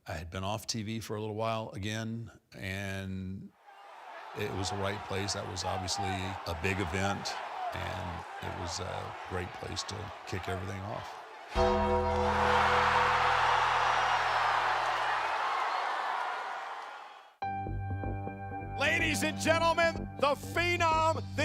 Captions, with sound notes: I had been off TV for a little while again and it was the right place. That was obviously a big event and it was a great place to kick everything off. (bell clanging) (crowd roaring) (intense music) Ladies and gentlemen, the phenom,